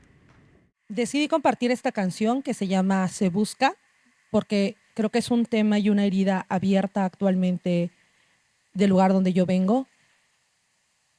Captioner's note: speaking Zapotec language